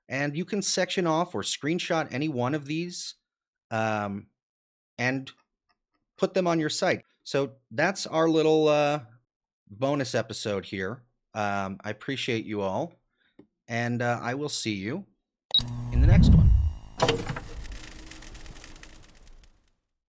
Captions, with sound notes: And you can section off or screenshot any one of these, um, and put them on your site. So, that's our little, uh, bonus episode here. Um, I appreciate you all and, uh, I will see you (electricity cuts off speaker) in the next one. (door on ground floor shuts)